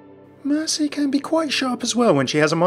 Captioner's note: voiceover